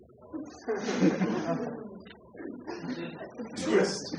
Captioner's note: laughter